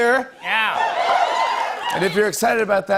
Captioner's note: cheers